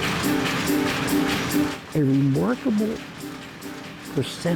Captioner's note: machines whirring